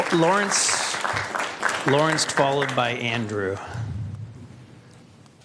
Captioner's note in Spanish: Aplausos